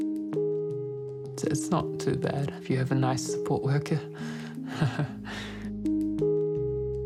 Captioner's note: chuckles